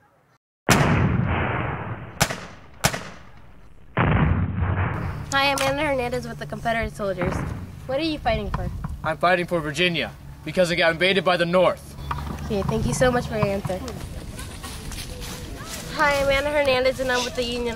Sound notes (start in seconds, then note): 0.6 gunshots; 3.4 cannon fire and gunshots